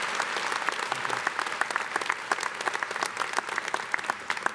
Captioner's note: applause